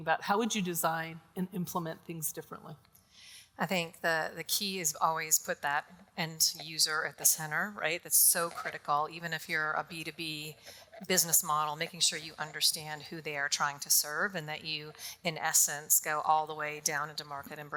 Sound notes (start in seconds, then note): none